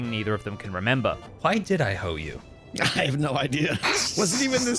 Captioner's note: laughs